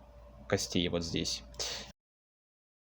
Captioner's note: intense breathing